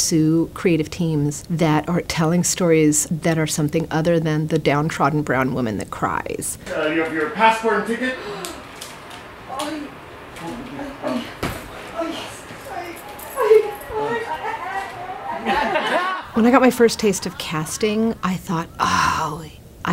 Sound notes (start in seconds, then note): 8.2 gasp; 12.5 laughs, mockingly; 13.3 audience laughter